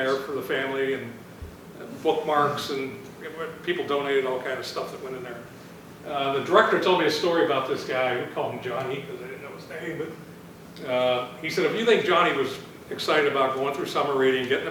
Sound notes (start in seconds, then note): none